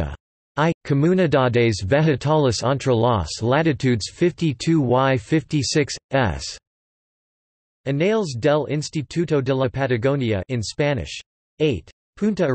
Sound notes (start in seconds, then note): 10.3 in Spanish